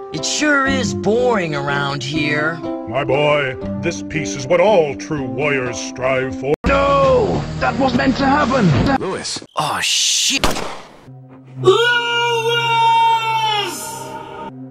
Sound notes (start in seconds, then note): 10.3 shot